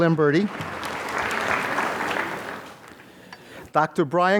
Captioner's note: applause